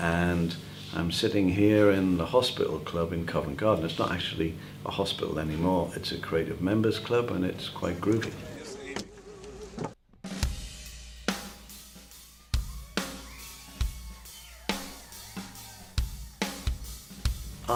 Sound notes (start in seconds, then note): 9.8 crowd cheering; 10.2 drum beat